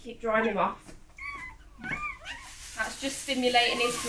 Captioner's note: newborn puppy squeaks